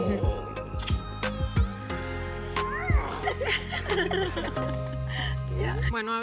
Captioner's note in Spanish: Risas